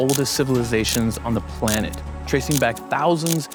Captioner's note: frames clicking